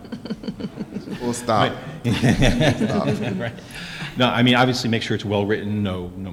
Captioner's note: laughter